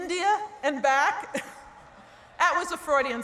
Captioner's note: laughter